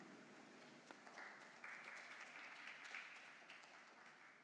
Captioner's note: applause